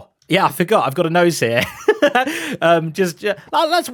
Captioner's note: laughs